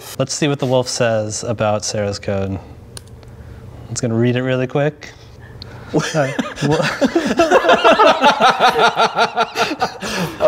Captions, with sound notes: Let's see what the wolf says about Sarah's code. It's gonna read it really quick. (laughing)